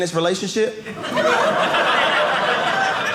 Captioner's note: audience laughing